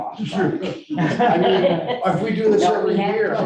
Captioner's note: board members laughing